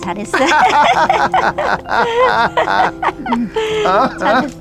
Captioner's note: both laughing